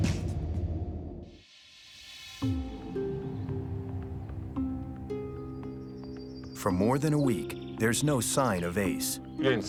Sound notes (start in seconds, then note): 2.3 soft dramatic music; 2.4 birds chirping